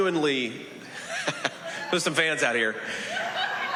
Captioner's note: laughs